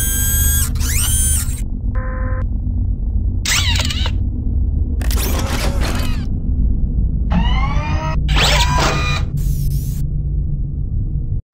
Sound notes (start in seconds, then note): 0.0 whirring; 7.2 whirring